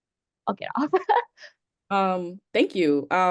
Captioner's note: laughs